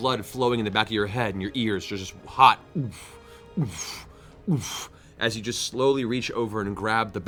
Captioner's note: heartbeat